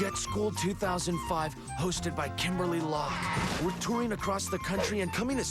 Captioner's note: none